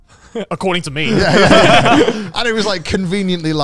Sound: all laughing

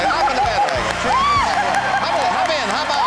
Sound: screams

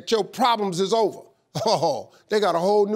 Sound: sarcastically chuckling

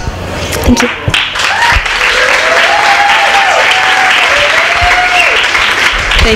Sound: applause

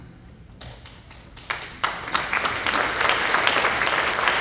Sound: applauding

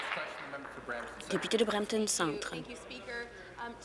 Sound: applause

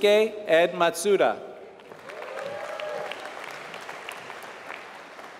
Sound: applause

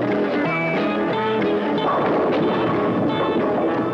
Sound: pins crashing

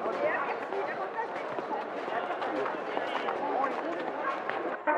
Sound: people chattering

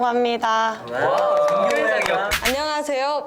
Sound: clap

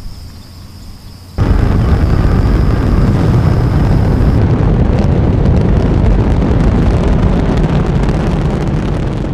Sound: rocket blasts off

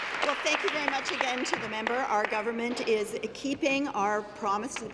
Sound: applause

